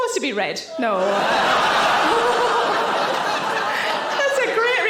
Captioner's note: audience laughing